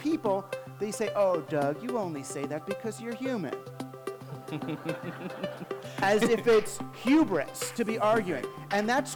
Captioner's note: laughter